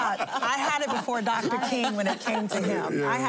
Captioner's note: laughter